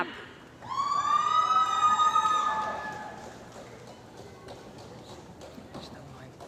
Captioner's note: cheering & Applause